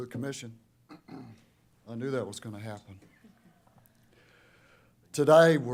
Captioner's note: clears throat